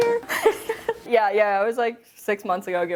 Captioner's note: laughing